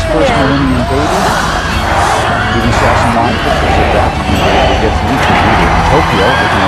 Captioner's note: in Japanese language